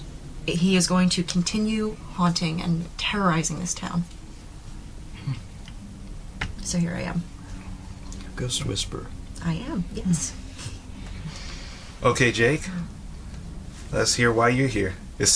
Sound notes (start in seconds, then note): 6.3 fingers tapping; 11.0 laughs